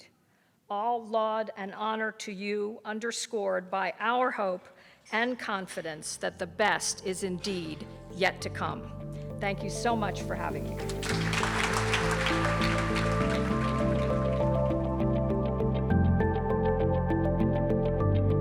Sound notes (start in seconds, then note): 10.7 audience applause; 11.1 bright music